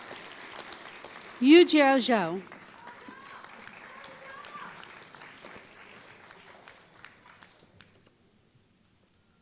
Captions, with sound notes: Yujiao Zhao [Applause]